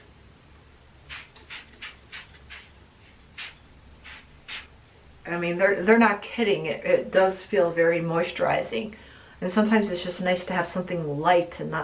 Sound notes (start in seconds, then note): 1.0 product spraying